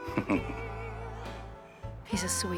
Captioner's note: chuckling